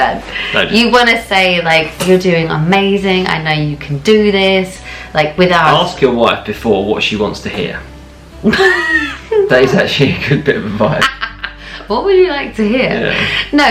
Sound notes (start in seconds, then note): 8.4 laughing